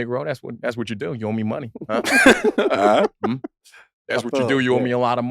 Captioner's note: chuckles